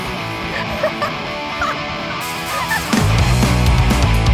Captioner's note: laughter